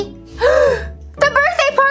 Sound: gasps

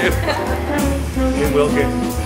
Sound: laughing

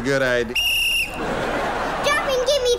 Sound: whistle blowing

